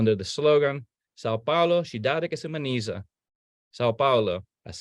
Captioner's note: speaking in foreign language